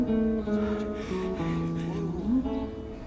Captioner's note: panting